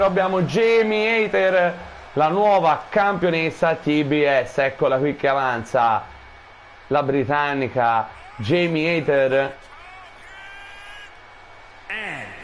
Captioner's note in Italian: Applauso